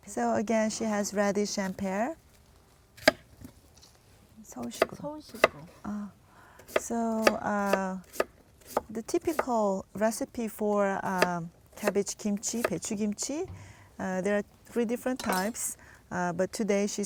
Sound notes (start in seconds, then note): 3.0 chopping sounds